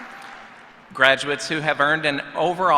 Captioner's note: applause